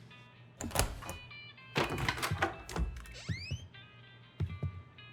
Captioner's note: room key jingles; door opens